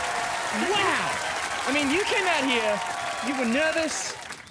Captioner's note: cheering and applause